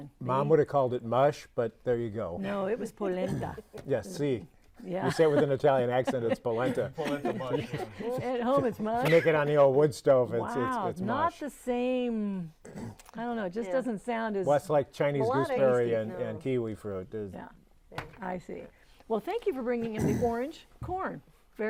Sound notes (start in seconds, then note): 5.6 spanish accent; 5.8 laughing